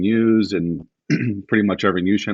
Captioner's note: clears throat